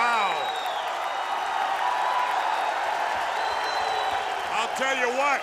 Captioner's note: crowd cheering